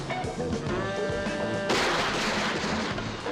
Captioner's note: gun firing